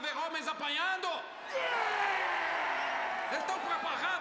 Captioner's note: all cheering